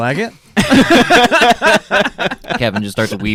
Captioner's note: laughing